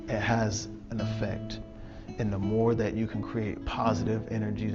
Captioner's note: none